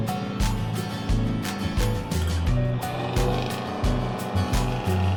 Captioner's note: motor running